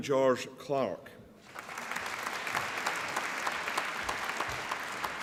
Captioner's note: applause